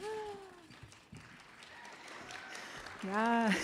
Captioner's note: audience applauds